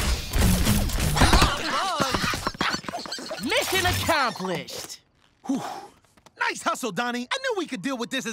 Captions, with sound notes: [squeaking] Missing accomplished. Whew. Nice hustle, Donnie. I knew we could deal with this as a team.